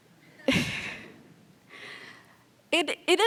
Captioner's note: laughter